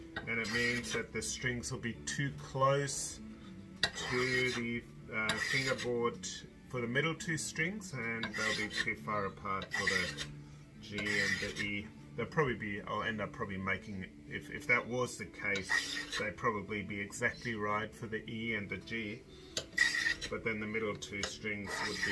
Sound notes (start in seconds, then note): 1.2 scrape; 4.1 scraping; 15.5 scraping; 19.5 scraping